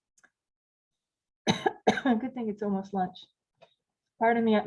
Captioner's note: coughing